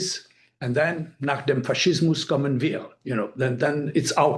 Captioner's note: speaking foreign language